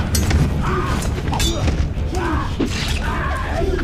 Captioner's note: whooshing; both grunting